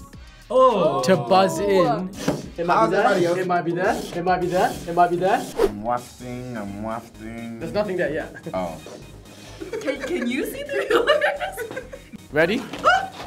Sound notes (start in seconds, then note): 10.9 laughing; 11.9 both laughing